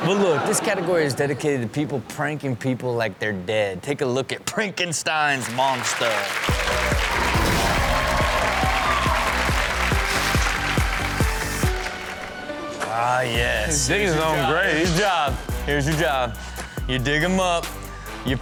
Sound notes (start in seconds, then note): 0.0 audience laughs; 5.3 audience cheers; 6.0 upbeat music